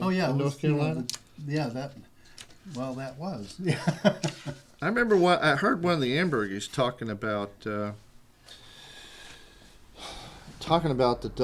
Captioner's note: laughter